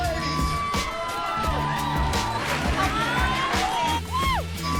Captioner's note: cheering